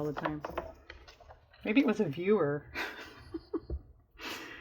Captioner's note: laughs